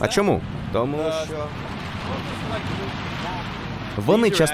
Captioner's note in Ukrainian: двигун заглушив голос